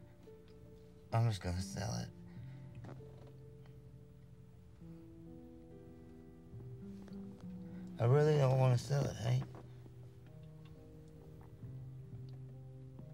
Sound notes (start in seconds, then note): none